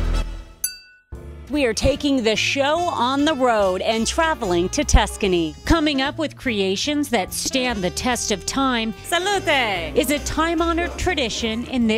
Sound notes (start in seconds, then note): 0.6 glasses clinking